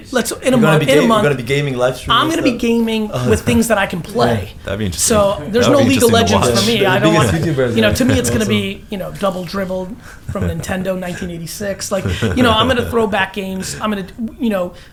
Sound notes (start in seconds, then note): 4.0 chuckles